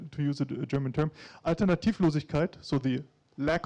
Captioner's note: speaking in foreign language